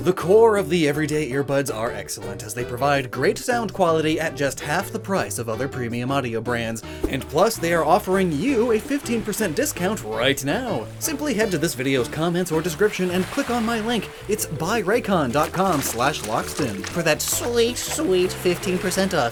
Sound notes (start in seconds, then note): 15.2 splashing noises